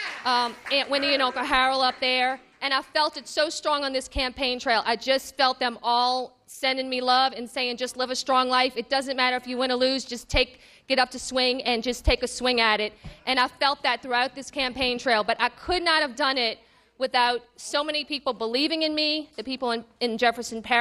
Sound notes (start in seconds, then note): 6.5 cheers and applause